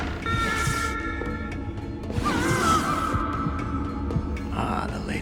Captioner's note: muffled screaming